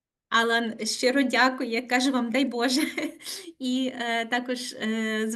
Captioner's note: speaking Ukrainian